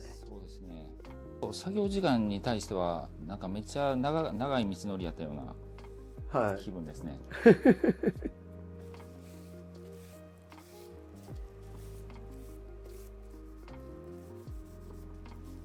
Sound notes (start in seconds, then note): 7.4 laugh